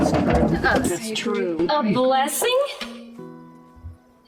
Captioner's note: cans falling